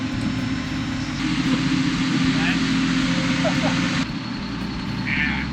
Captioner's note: machine running